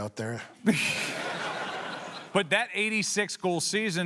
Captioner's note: laughter